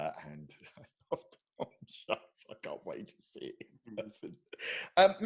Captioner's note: laughing